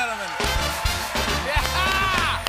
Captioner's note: cheers and applause